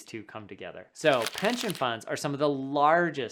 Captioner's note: paper rubbing